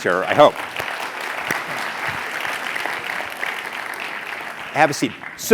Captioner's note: applause